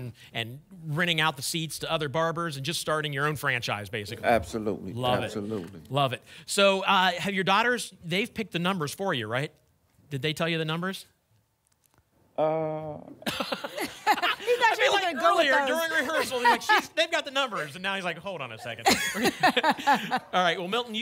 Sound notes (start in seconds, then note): 13.2 laughter